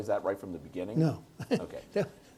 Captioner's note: chuckles